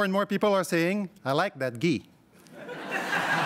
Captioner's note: crowd laughs